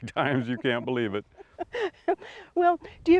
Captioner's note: chuckles